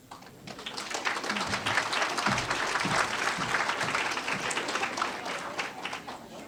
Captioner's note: applause